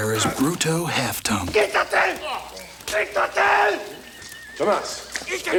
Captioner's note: Bruto yells in Spanish